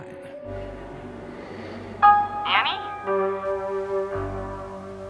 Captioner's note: breathing